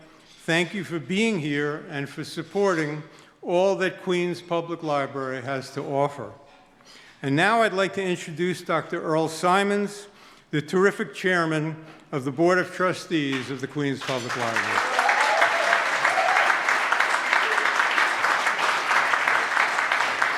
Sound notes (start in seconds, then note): 13.9 audience claps